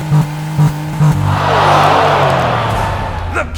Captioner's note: crowd gasps